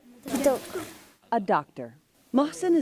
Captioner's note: through translator